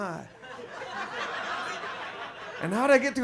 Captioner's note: audience laughs